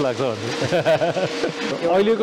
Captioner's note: laughs